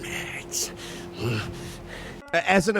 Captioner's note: Chum Bucket grunts